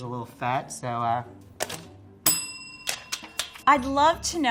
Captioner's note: bell dinging